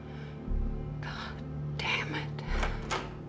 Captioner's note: whispers